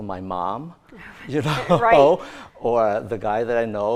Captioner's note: laughing